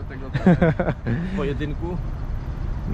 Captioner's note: laughter